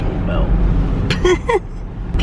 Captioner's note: chuckles